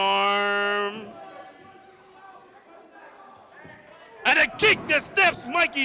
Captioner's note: crowd chatter